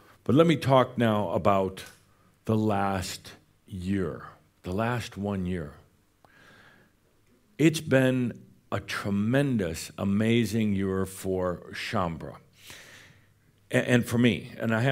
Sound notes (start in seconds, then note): none